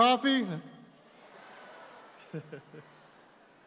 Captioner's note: audience responds; laughs